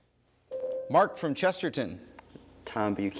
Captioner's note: ding